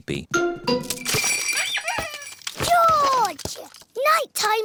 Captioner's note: bells ring and toys squeak